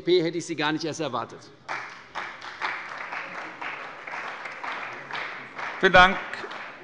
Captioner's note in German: Beifall bei der CDU